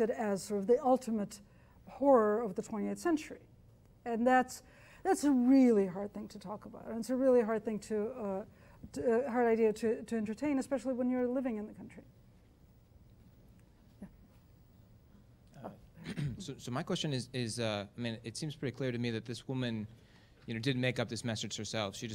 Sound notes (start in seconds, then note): 16.8 voiceover